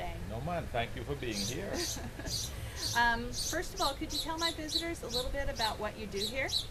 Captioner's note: laughs